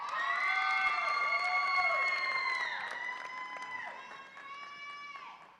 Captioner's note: audience applauds and cheers